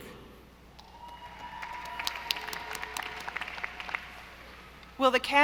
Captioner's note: audience applauding